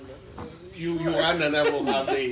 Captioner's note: laughs